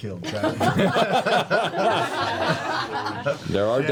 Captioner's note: laughter